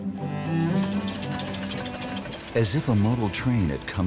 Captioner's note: train engine revving